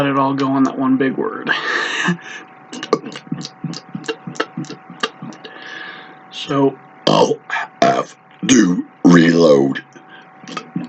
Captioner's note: laughs